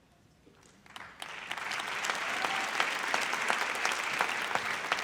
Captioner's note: audience applauds